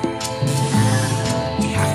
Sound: upbeat music; door creaking; monster chattering

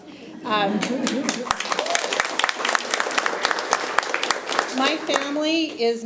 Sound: attendees applauding

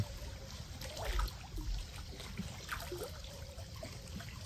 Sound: water lapping

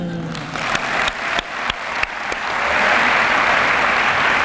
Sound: applause

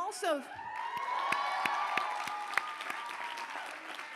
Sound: cheers, applause

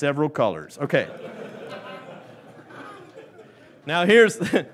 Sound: laughing

